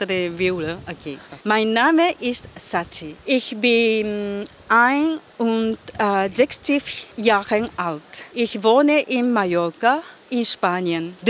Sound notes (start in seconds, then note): 1.3 in German